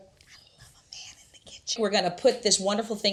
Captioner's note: whispering